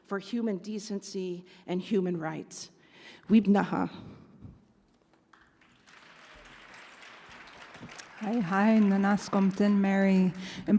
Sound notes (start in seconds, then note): 3.3 speaks in Native language; 5.2 audience applauds; 8.2 speaks in Native language